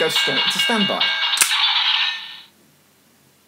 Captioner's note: electronics click